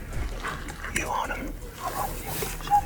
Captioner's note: whispering